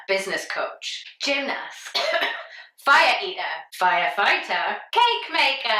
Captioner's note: coughs